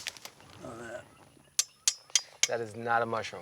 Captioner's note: loud metal tapping